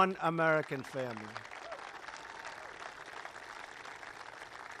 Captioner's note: applause